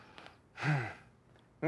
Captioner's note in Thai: เสียงถอนหายใจ